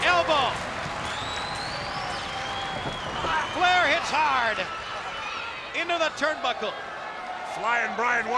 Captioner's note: applause